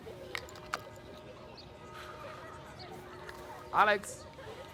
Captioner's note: bells tolling